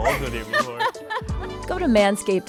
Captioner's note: laughs